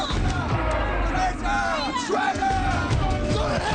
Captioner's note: crowd